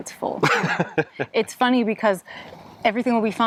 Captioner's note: laughs